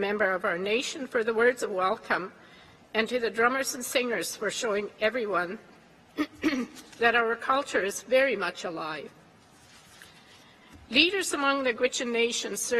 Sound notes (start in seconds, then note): 6.2 clears throat